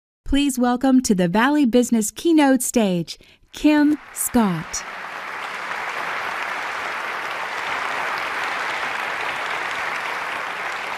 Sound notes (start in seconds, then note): 5.5 audience clapping